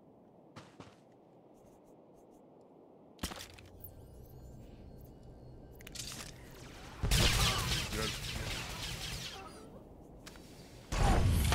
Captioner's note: gunshots